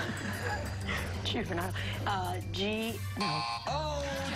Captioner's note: laughter